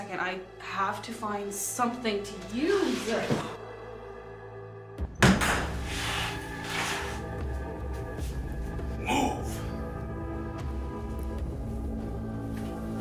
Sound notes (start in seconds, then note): 5.2 door slams open